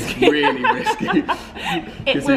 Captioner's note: laughs